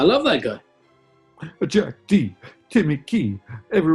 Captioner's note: raps